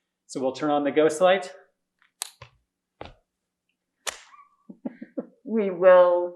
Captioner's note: laughs